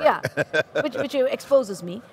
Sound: laughing

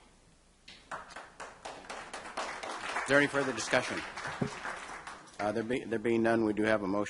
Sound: applause

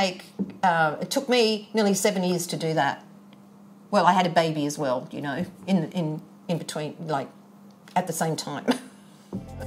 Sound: chuckles

